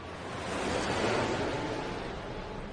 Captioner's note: airplane swooshing